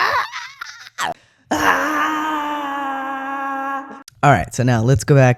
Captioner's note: echoing